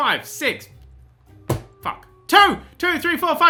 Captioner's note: hits desk